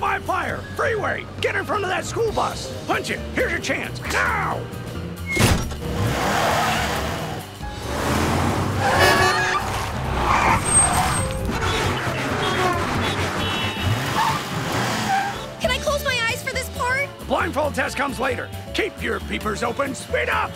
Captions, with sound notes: Freeway! Get in front of that school bus! Punch it! Here's your chance! Now! [honking] [honking] Can I close my eyes for this part? Blindfold test comes later. Keep your peepers open! Speed up!